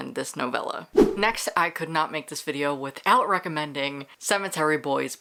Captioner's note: whoosh